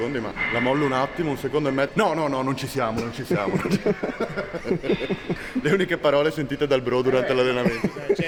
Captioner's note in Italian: risate